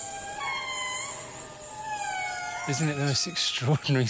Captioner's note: lemur cry